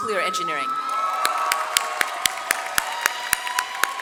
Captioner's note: audience cheers